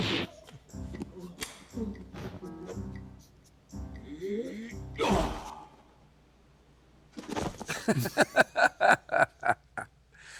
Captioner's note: laughing